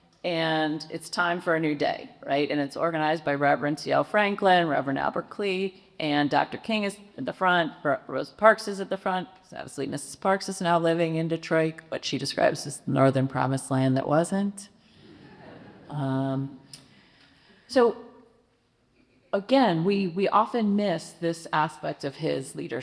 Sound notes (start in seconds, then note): 15.1 audience chuckles